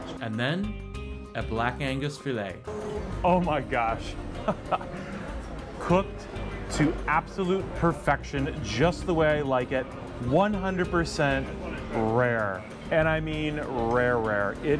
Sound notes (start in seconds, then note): 4.4 laughs